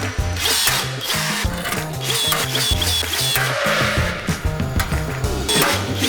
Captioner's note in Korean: 리벳건 소리